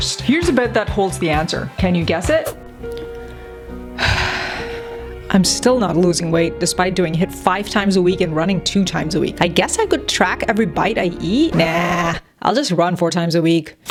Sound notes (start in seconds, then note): 2.7 somber music; 11.5 record scratches